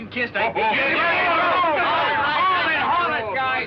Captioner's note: cheering